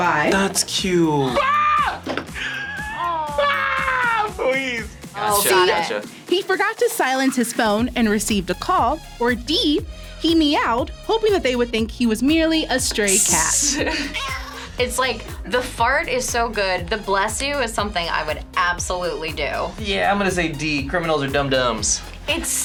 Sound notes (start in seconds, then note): 2.3 laughs; 13.1 laughs; 13.5 cat meows